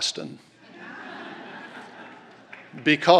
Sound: laughter

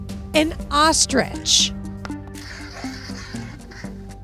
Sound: pen scrapes

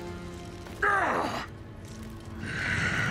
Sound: groaning

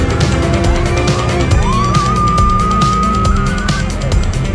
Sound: screams

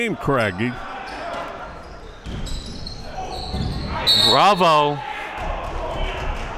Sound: whistle blows

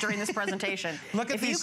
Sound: laughter

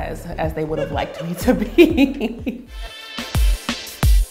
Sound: laughs

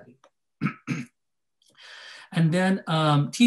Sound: clears throat

